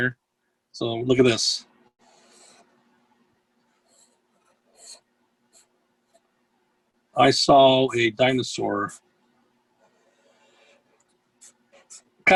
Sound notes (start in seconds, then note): 2.6 pencil squeaking